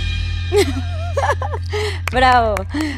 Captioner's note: giggles